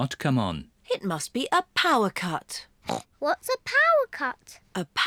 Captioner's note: grunts